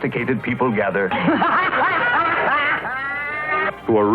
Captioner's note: laughs